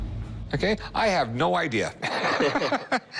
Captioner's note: laughter